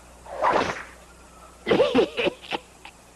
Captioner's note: laughing